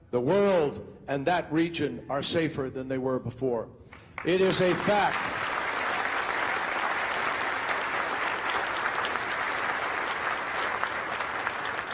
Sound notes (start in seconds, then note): 4.1 crowd applauding